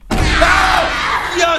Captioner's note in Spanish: Grita